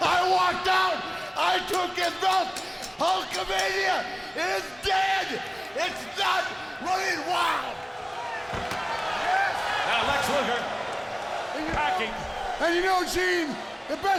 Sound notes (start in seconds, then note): 8.1 strap cracking; 10.5 crowd cheering